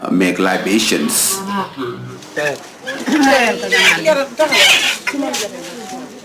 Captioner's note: speaking in foreign language